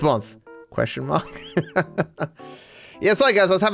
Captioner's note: laughs